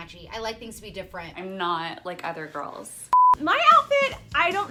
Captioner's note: beep